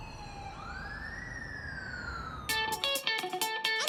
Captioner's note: distant sirens blaring; upbeat music